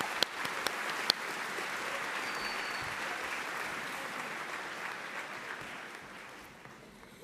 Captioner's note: applause